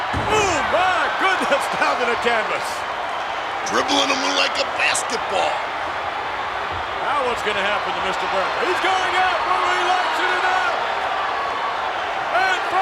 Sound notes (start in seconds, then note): 2.4 audience cheers; 10.7 audience cheers